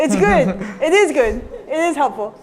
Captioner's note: laughter